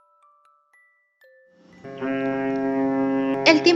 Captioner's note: Sonido de una sirena de niebla